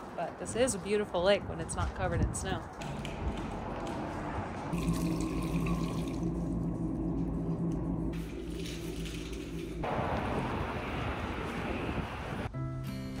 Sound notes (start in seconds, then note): 4.7 water splashing